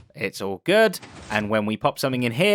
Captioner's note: none